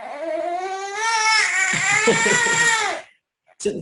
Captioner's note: cries